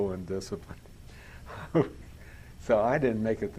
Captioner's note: laughs